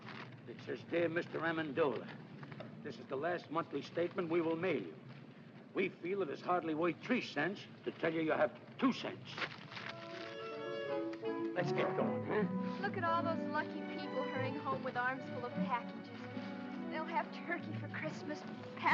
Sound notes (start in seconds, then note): 9.2 paper crumples